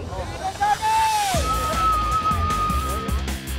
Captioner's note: fans screaming